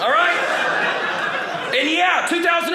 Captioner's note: audience laughing